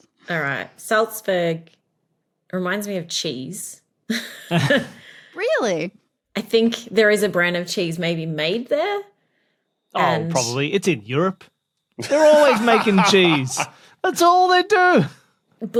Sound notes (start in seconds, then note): 4.2 chuckle; 12.0 laughs heartily